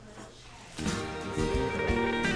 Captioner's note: gavel sounds